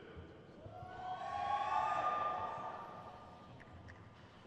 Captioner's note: crowd cheers